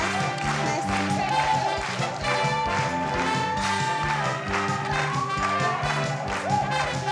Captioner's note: audience clapping; instrumental music